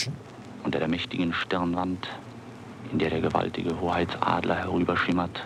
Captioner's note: radio broadcasting in German